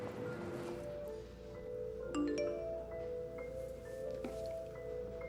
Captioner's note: phone beeps